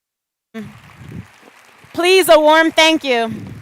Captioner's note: applause